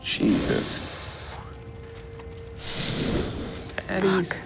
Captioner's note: imitates fire explosion